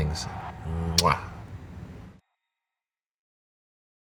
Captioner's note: blows kiss